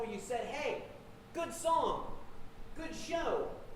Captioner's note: none